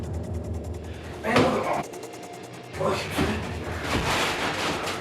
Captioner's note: clattering; grunting